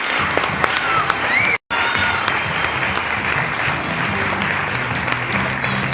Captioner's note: applause; applause continues